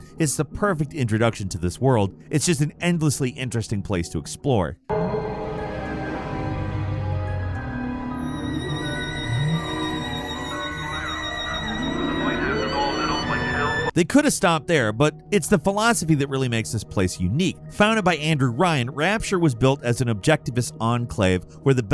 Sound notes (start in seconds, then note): 5.0 haunting music; 7.2 whale groans